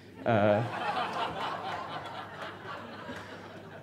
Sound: audience laughs

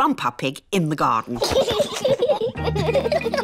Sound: both laughing

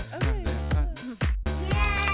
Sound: cheering

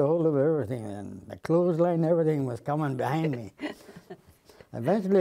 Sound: laughter

